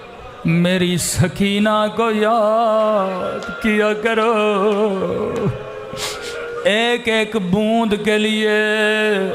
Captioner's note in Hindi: नाक से की जाने वाली आवाज़